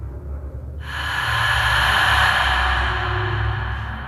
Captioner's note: ghostly hissing